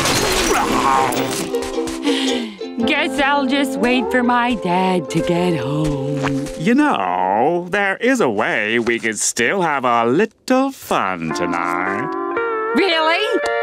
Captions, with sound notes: [sighing] I guess I'll just wait for my dad to get home. You know, there is a way we could still have a little fun tonight. Really?